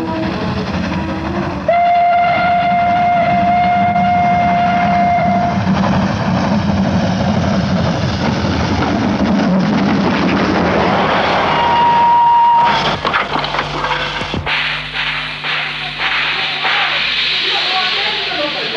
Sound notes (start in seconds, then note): 0.6 sound of an old steam train